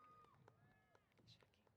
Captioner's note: applause & Cheers